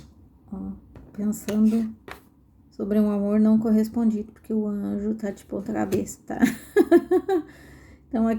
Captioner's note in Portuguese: risadas